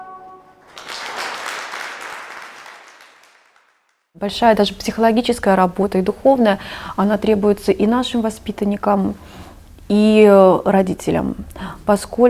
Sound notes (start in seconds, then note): 0.6 sounds of applause